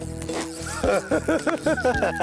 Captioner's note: laughs